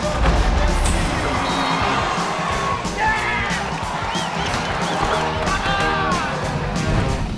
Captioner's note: people cheering; people screaming; upbeat rock music